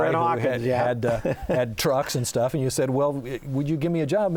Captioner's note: laughing